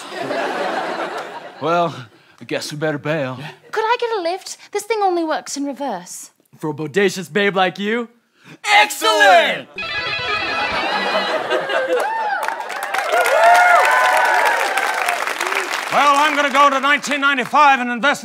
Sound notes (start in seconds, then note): 0.0 laughter; 9.7 guitars play; 10.2 cheering